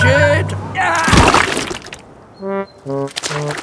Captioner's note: groans